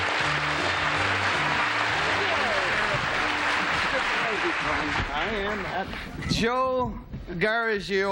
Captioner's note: applause